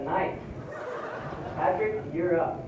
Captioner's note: laughter